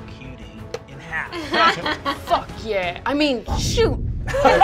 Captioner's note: laughing